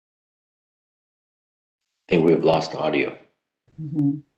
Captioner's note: audio lost